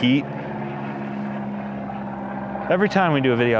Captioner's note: plane roaring